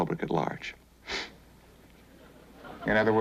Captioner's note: sniffs